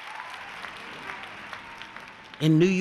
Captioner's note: applause